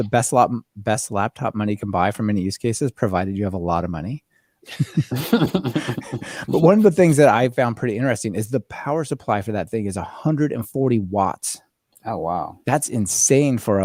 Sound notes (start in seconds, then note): 6.3 both laughing